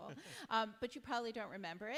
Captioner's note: chuckles